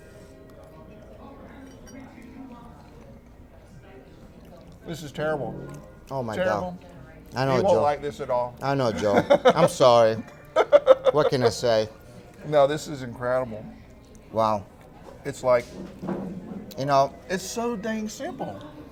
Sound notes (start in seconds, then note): 10.1 lauging